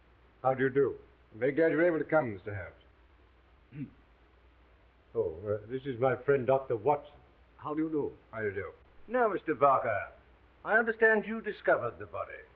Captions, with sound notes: - How do you do? - I'm very glad you were able to come, Mr. Holmes. (Watson coughs) - Oh, this is my friend, Dr. Watson. - How do you do? - How do you do? - Now, Mr. Barker, I understand you discovered the body.